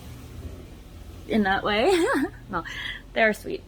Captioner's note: giggles